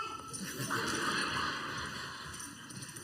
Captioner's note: crowd laughs